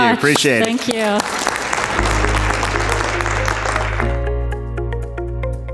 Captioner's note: audience claps; upbeat music